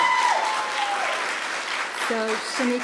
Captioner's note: applause